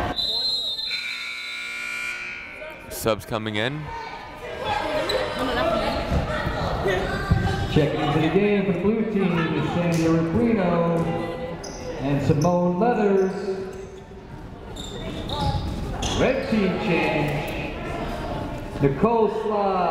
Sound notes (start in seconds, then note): 0.0 whistle blowing; 0.8 buzzer sounding